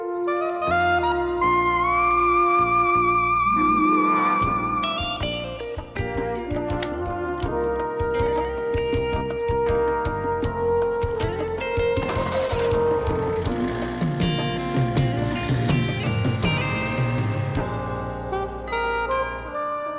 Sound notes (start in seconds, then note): 12.2 car engine starting; 18.3 doorbell ringing